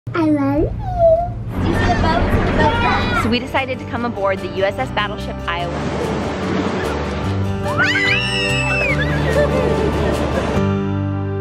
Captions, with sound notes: - I love you. - You see the boats and the boat cliffs? So we decided to come aboard the USS Battleship Iowa. (waves crashing) (children screaming) (soft music)